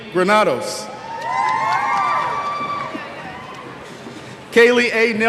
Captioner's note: cheers